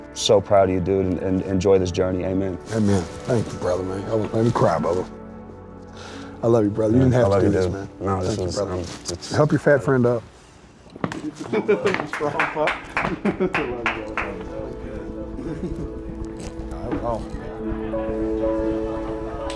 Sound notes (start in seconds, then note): 11.4 laughs; 11.8 clapping; 16.6 peaceful music